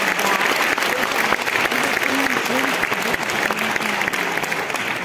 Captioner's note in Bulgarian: аплодисменти